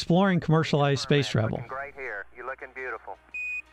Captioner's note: radio transmission